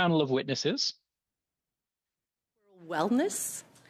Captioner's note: speaking French